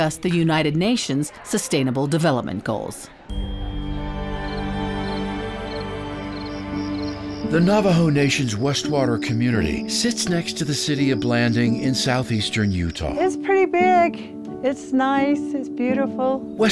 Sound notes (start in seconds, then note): 4.4 crickets chirping